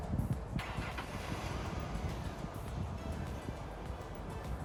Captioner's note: engine starting